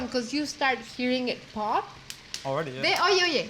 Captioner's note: chile pops; speaking Spanish